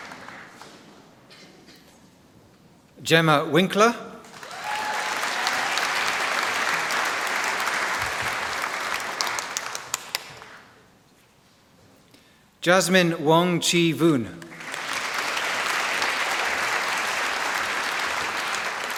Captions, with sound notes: Gemma Winkler. (Applause) Jasmine Wong Chee Voon. (Applause)